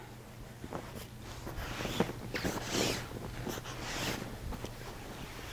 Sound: sheets rustling

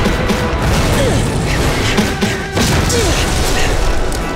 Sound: groaning

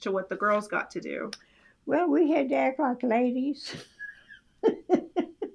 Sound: laughs

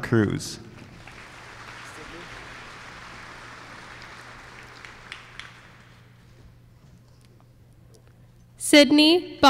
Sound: applause

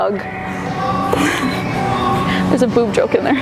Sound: laughs

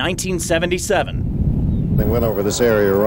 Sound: wind blowing

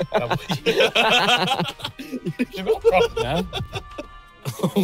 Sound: everyone laughing

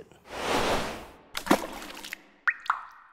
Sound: splashing

